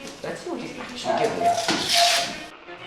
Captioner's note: Jenny Barking Intensifies